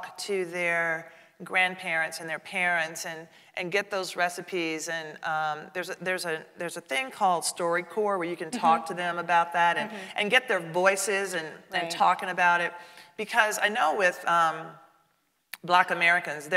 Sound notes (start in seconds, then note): none